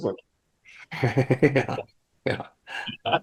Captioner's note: laughing